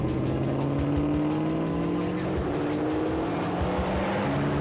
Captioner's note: car engine blaring